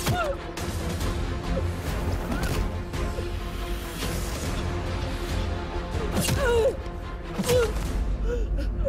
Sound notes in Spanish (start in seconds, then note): 3.6 Quejidos